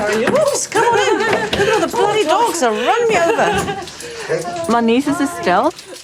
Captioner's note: laughs